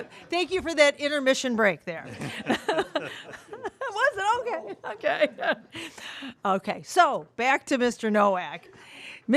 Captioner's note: laughter